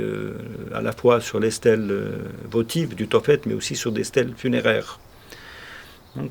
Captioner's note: continuing to speak French